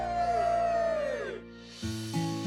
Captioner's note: cheering; whoosh!